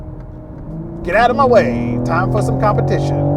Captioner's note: engine roaring